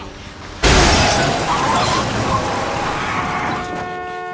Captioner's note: cars crashing; tires screeching; horn blaring